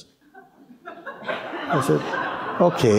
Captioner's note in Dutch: gelach